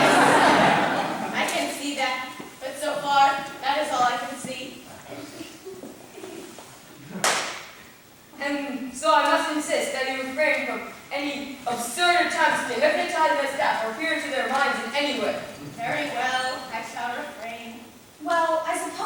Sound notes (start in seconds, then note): 7.1 clap